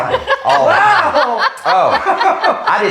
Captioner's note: laughs